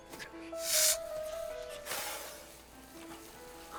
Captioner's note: skinny hisses